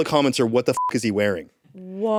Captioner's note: beep